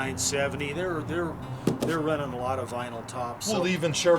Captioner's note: murmurs